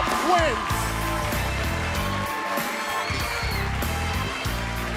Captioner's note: bell ringing